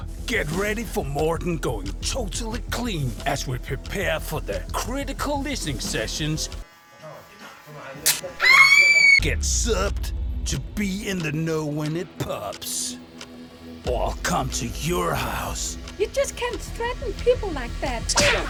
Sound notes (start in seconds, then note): 8.4 loud scream